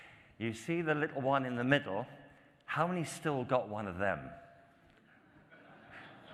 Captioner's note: laughter